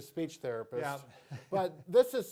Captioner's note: chuckles